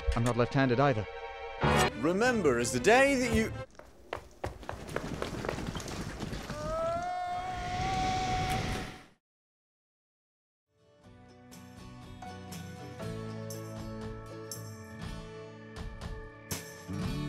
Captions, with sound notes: - I'm not left handed either. - Remember it's the day that you-- (yelling) (light alternative music)